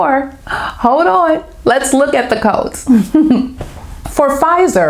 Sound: laughter

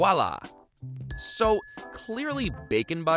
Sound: dings

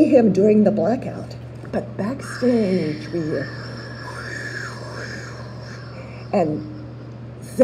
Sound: wind noises

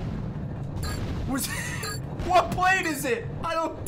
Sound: laughs

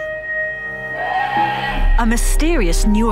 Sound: animal moaning

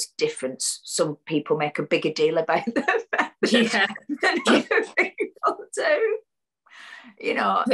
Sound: laughs

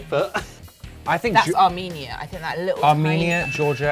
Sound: bell dings

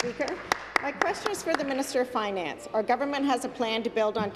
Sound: applause

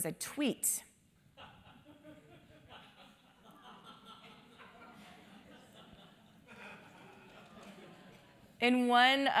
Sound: laugh

